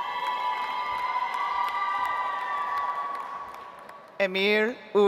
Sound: audience applauds

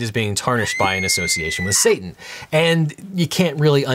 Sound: woman screaming

